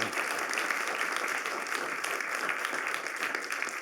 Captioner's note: applause